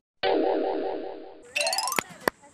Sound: in fear

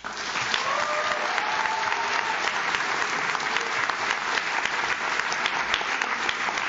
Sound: audience claps; audience cheers

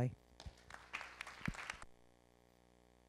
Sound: applause

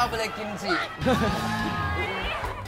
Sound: laugh

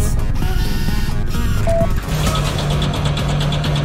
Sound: Krogarr whirs; electronics bleep; winch clattering

